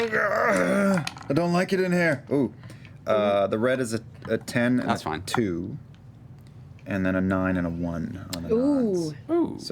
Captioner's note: grunting